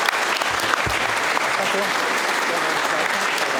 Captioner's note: applause